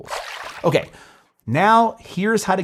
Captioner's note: water splashing